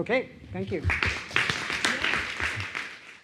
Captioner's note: applause